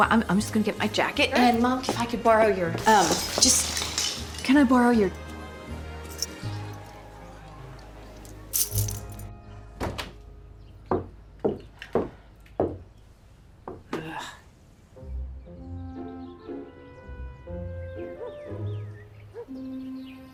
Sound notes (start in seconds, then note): 6.0 keys jingle; 9.5 door opens, footsteps